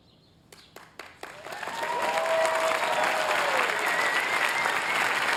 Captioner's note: applause